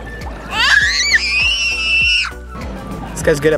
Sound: screams

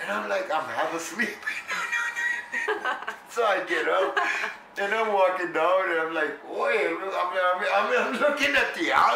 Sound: laughter; laughs

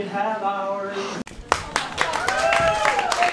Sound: audience cheers

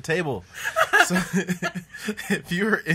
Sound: laughter

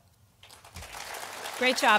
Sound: audience applauding

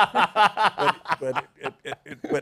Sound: laughter

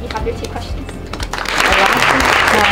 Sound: applause

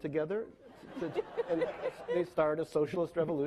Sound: laughing

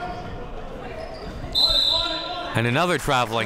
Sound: whistle being blown

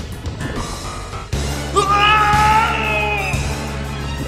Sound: Chris screaming

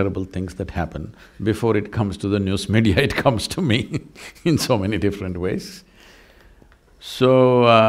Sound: laughs

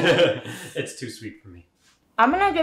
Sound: both laugh

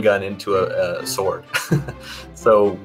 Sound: laughing

